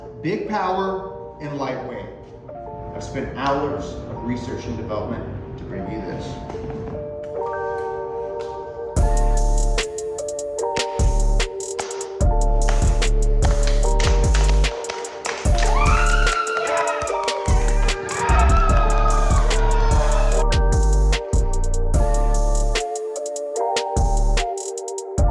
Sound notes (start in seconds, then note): 9.0 deep bass upbeat music; 10.8 clapping; 14.9 all applause; 15.5 woman screaming